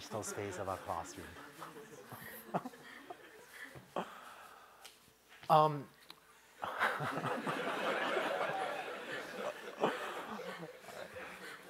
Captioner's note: laughter